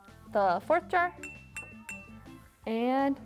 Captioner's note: jar tinking